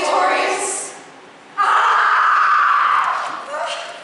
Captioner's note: AEGISTHUS screams offstage